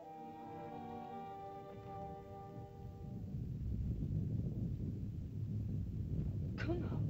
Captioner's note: soft music; rumbling sound; Loana speaks in caveman language